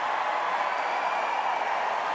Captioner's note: cheers and applause